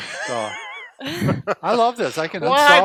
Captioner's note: laughs